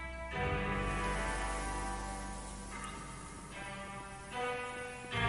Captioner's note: trees sway in the wind